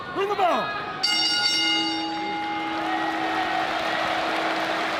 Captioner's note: applause